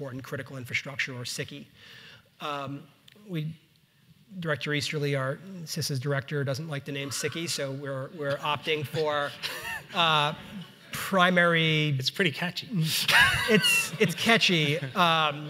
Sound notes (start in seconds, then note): 13.0 audience laughs